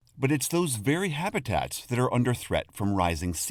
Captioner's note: voice-over